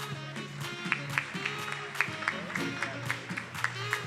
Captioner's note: attendees applauding; upbeat music